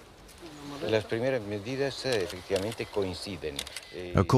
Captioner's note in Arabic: الصوت المنطوق باللغة الإسبانية